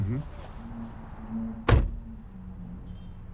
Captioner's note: car door opens; car door closes